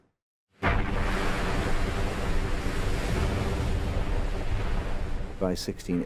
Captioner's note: booming; waves crashing